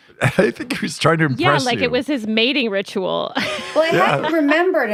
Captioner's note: laughs